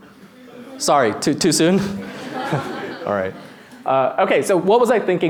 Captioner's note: laughter